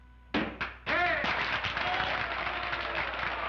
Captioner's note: audience cheers